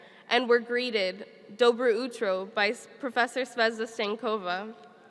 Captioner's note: speaks foreign language